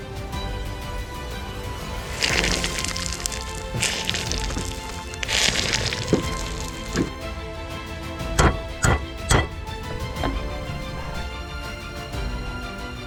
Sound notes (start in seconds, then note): 1.8 metal crackling; 2.1 upbeat music; 8.2 hammer banging; 10.3 upbeat music